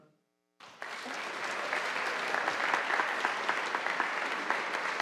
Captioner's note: audience applauding